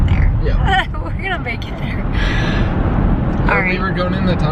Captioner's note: giggles